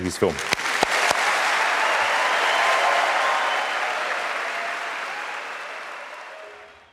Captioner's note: applause